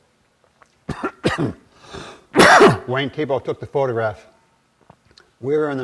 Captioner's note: coughing